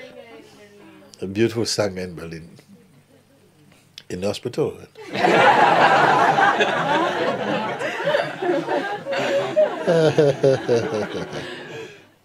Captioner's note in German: Lachen